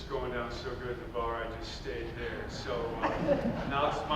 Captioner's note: audience laughing